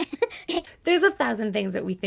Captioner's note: laughs